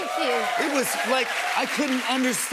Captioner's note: cheers and applause